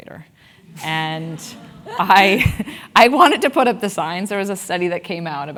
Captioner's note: laugh